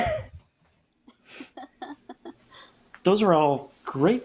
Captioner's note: laughs